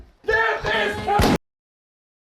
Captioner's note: gunshot